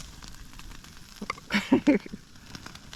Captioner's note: chuckles